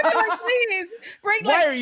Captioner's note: laughing